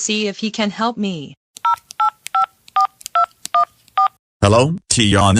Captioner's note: cell phone dial